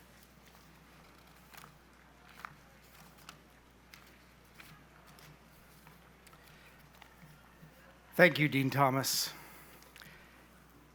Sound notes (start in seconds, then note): none